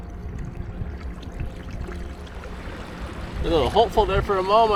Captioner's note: water lapping gently